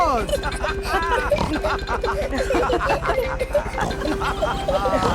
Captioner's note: all laughing and snorting